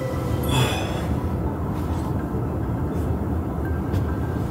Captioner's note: narrator sighs; upbeat music